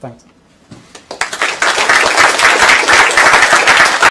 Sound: applause

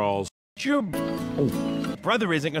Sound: gulp

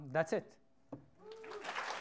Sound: applause

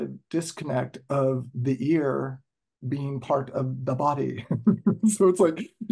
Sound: laughter

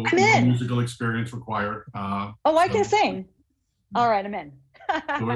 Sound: laughs

